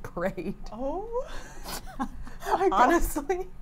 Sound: laughs

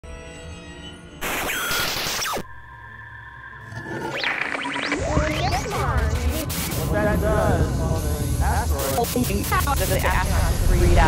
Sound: sound Effects

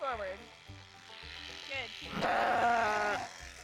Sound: bleats

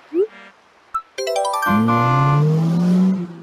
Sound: horn and acceleration

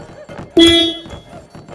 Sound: car's horn

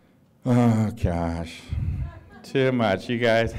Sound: laughter

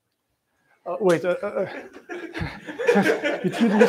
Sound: laughter

